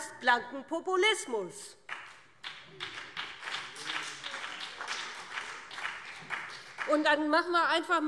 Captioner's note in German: Beifall